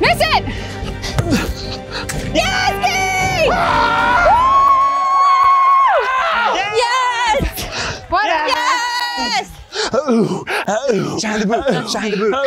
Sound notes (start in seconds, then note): 2.6 cheering; 9.7 cheers